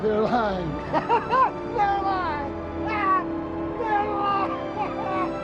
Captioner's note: laughs